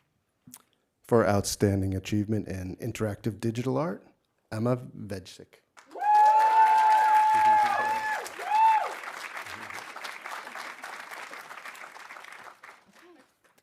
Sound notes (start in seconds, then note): 5.8 audience applauding; 5.8 audience cheering